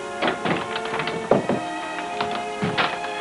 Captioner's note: door closing; footsteps; paper rustling